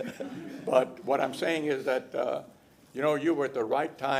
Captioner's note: laughter